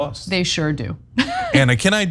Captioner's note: laugh